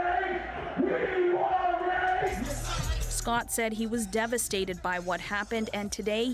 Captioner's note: chanting